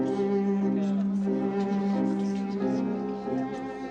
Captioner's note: guests Murmuring